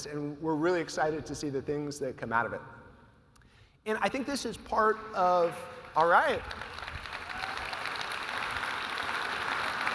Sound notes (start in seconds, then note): 5.9 audience applauding; 7.0 audience cheering